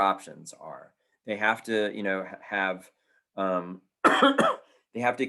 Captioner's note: coughing